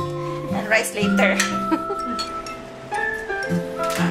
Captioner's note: laughs